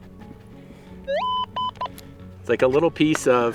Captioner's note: metal detector beeping